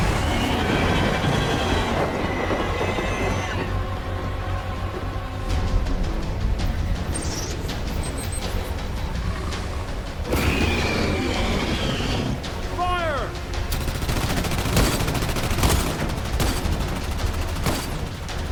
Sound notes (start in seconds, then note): 0.0 creature roaring; 0.0 loud banging; 4.6 dramatic music; 7.8 loud beeping; 10.2 creature roaring; 13.7 guns blasting